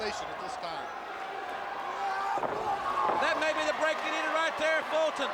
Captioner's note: crowd cheering